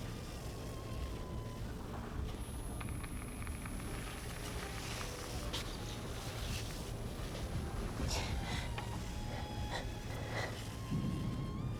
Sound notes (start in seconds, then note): 2.2 high-pitched tone ringing; 2.5 static crackling; 9.1 gentle music